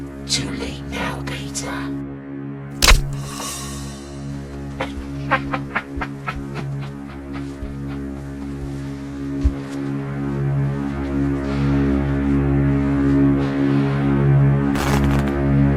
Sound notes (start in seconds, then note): 5.2 monster laughing